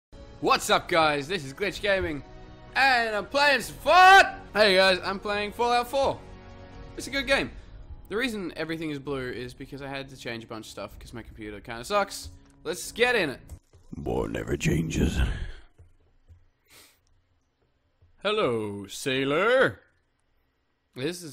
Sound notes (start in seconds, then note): 15.1 growling